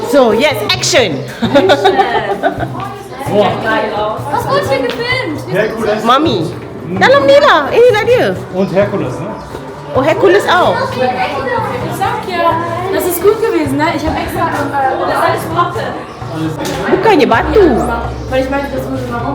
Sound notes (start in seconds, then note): 1.2 laugh; 4.3 speaking German; 9.0 speaking German